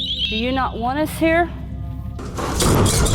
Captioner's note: eerie music; door slamming